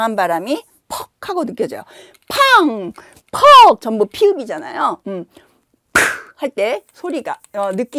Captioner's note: thud